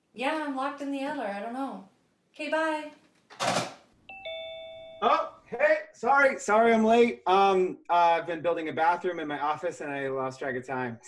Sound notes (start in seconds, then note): 4.1 doorbell ringing